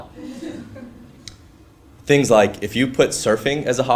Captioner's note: laugh